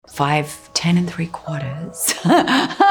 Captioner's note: laughs